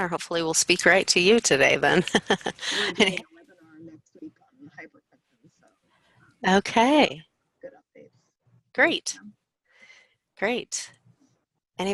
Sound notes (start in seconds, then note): 2.4 sound distorts voice